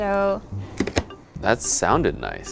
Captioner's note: stamp crunching